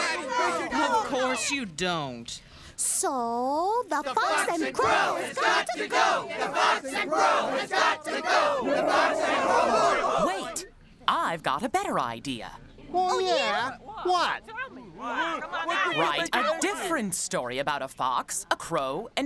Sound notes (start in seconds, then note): 8.3 roars; 14.1 birds exclaim